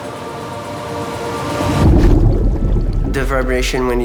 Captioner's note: burbling